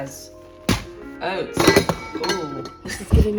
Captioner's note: objects clatter